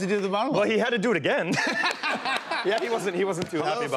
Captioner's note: laughter